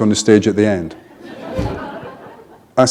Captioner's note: laughter